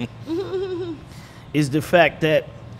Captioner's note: laughing